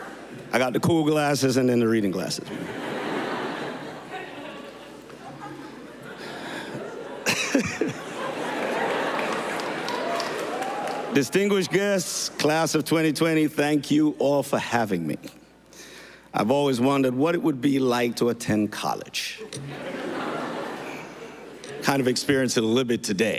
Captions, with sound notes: I got the cool glasses and then the reading glasses. (~LAUGHTER~) Distinguished guests, class of 2020, thank you all for having me. I've always wondered what it would be like to attend college. ( LAUGHTER ) Kind of experience it a little bit today.